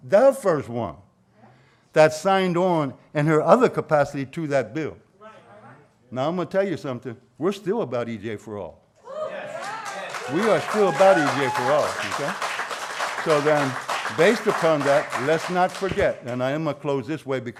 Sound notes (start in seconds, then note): 9.5 applause